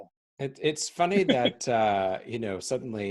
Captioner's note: chuckling